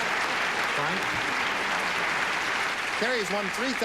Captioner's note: applause